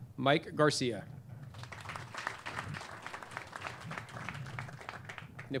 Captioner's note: clapping